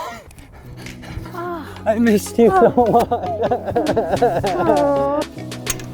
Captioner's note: crying uncontrollably